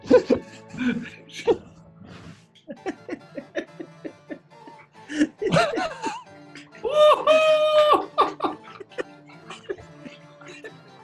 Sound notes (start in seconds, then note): 0.1 laughter; 6.9 cheering; 8.7 laughter